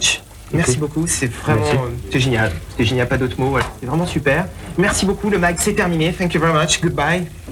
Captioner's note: french